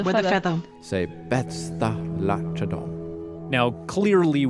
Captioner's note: speaking Old English